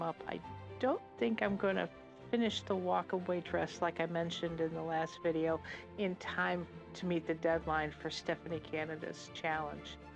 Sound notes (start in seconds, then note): none